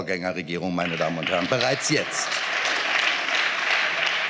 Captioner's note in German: Beifall